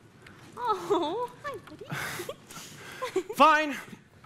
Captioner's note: giggles